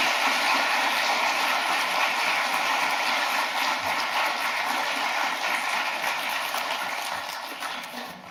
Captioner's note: claps